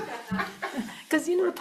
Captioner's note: laughing